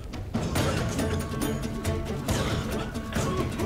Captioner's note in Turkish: Öksürüyorlar